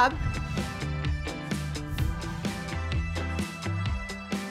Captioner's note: air whooshes